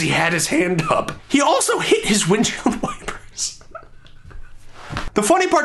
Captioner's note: laughing